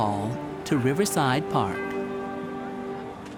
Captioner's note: crowd murmurs